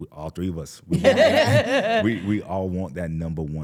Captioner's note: chuckling